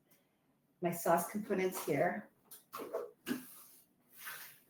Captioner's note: items shuffle